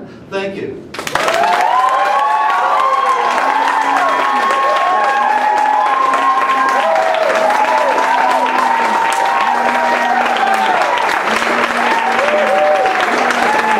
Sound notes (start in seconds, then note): 0.9 applause; 1.1 some booing